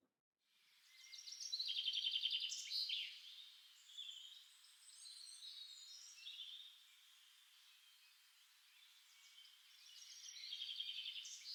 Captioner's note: birdsong